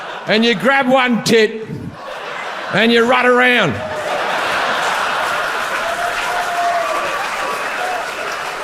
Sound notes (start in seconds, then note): 3.8 audience applauds